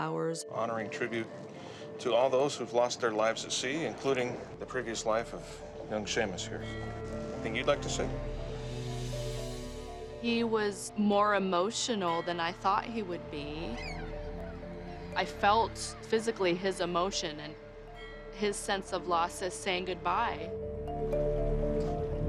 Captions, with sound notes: Honoring tribute to all those who've lost their lives at sea, including the previous life of young Seumas here. Anything you'd like to say? He was more emotional than I thought he would be. [gulls calling] I felt physically his emotion and... his sense of loss at saying goodbye. [somber music playing]